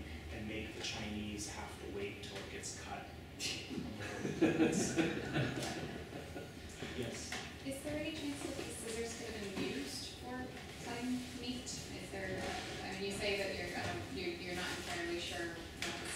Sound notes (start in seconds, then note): 3.9 chuckling